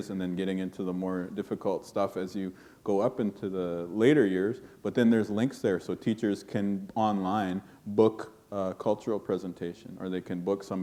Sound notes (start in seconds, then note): none